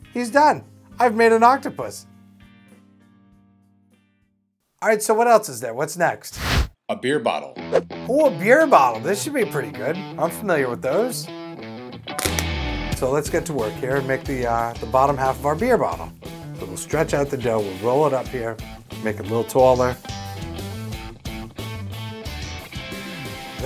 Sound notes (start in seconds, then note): 7.8 rock music starts; 12.1 cap pops off; 20.3 rock music continues